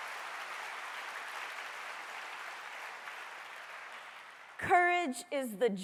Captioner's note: applause